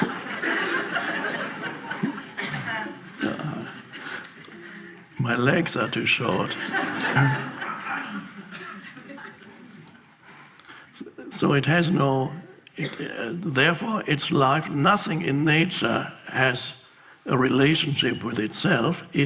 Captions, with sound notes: My legs are too short. (audience laughs) So it has no... Therefore its life, nothing in nature has a relationship with itself.